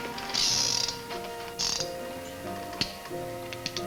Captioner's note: gun clicks